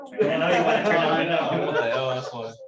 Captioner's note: laughter